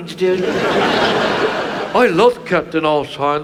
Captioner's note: audience laughs